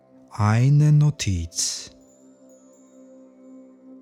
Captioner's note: german